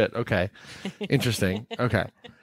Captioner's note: laughing